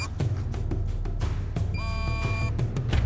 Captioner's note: continuous beep; very fast beeps